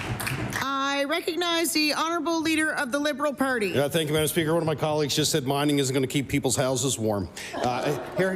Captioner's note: applause